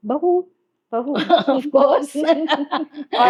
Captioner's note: chuckles